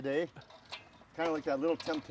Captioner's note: metal spoon clanging against bowl